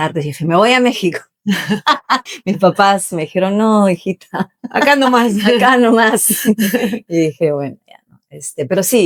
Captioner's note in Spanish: risas